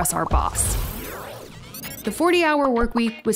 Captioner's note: image whooshing